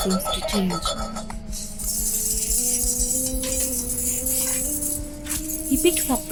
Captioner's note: iron chains clanking